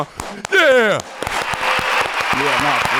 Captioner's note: audience applauding